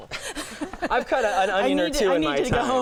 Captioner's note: laughing